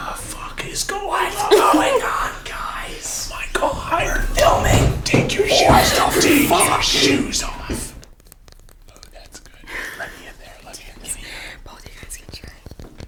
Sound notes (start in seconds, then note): 7.9 gentle tapping; 11.6 gentle tapping